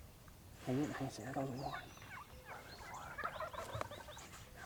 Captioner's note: hushed voices